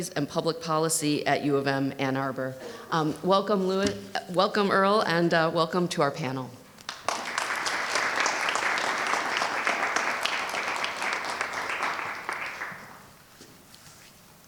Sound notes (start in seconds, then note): 6.8 audience clapping